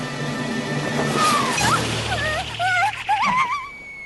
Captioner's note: panicked squeals